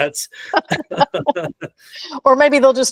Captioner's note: both laughing